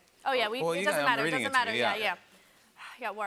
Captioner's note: none